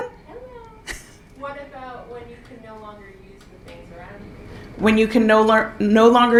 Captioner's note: speaker off mic